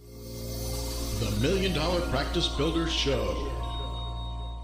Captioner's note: voiceover